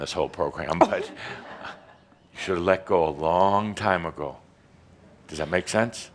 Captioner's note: a few chuckles